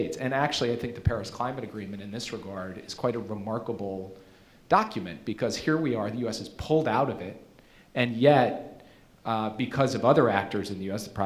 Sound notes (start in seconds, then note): none